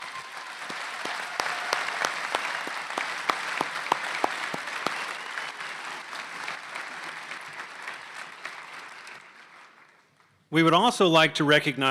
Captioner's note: applause